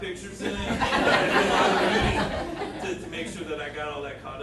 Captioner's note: audience laughing